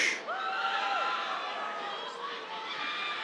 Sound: cheers

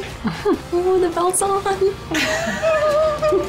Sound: laughter

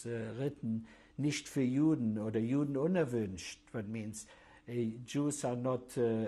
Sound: german

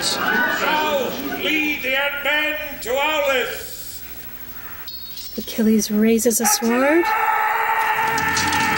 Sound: actor yells

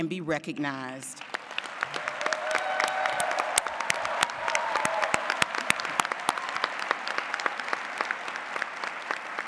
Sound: applause

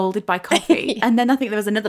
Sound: laughing

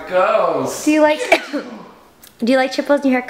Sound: coughs

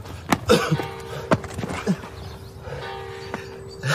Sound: bells

